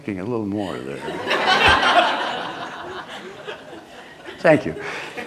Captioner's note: laughter